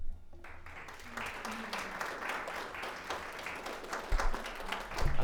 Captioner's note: everyone applauding